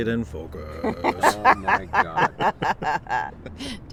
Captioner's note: laughs